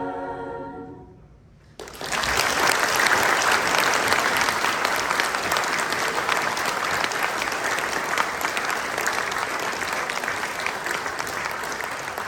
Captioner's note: applause